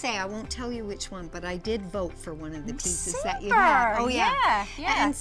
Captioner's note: none